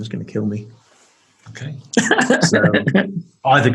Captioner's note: laughing